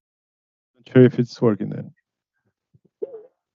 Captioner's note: speaking loudly into microphone